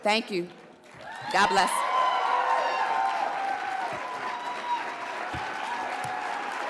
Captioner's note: audience cheers and applauds